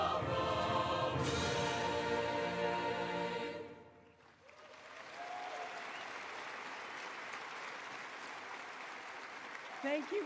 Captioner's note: applause